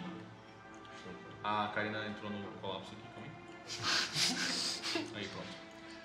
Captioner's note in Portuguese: Risadas